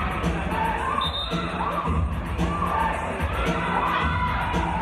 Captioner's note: hip hop music on sound system; referee's whistle